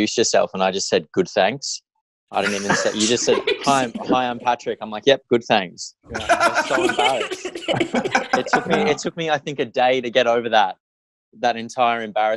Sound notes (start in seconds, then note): 2.4 cast laughing; 6.1 everyone laughing